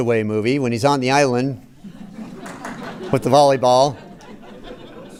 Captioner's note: laughter